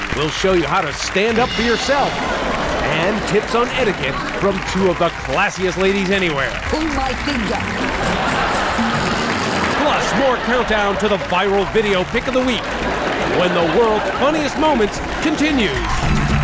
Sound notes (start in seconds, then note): 8.0 laughing and breaking wind; 16.2 audience cheering and applause